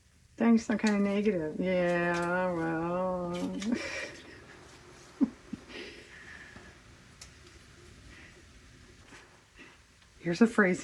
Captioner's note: laughs